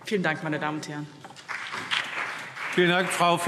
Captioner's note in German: Beifall BÜNDNIS 90/DIE GRÜNEN